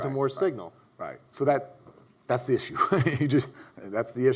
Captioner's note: laughs